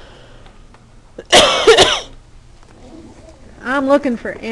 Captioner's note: coughing